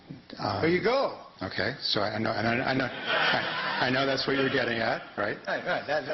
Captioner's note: laughter